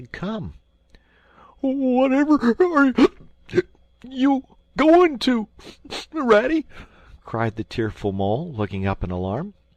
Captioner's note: hic